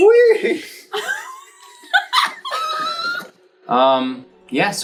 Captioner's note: laughing